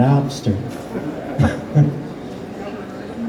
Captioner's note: laughs